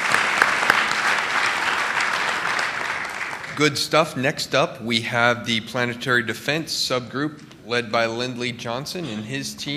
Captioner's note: applause